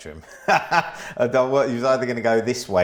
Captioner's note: laughs